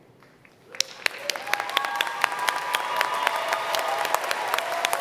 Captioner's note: applause